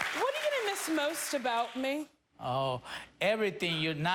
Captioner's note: applause